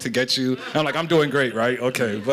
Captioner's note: laughter